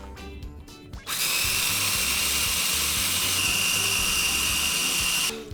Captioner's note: high pitched buzzing